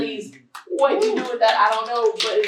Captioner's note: applause